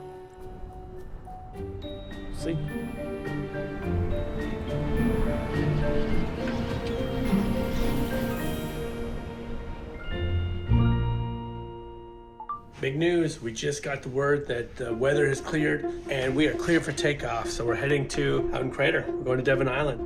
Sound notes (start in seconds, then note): 6.3 wind gusting